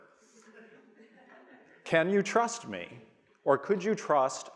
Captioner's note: audience laughing